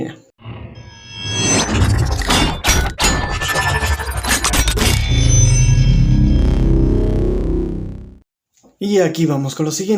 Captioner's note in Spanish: Sonido de transformación